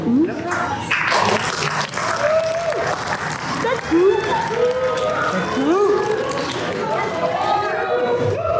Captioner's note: applause